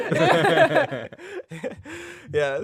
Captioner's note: all laughing